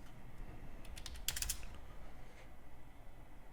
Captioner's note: typing